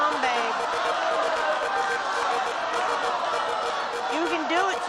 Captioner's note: cheering